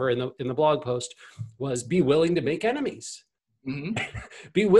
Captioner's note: laughs